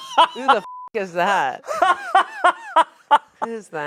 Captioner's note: beep